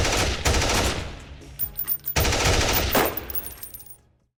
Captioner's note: gun banging